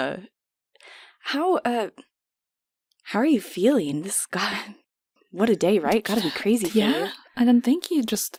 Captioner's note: laughs